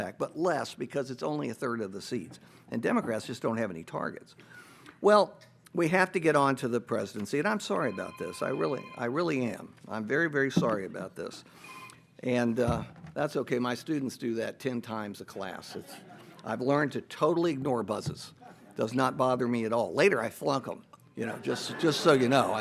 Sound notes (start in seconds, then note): 11.6 phone rings; 15.7 audience laughs